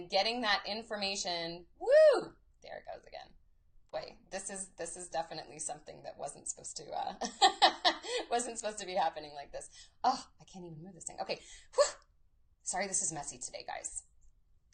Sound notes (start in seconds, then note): 7.7 laughs